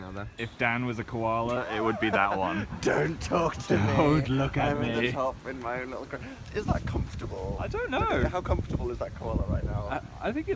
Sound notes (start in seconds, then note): 1.5 laughing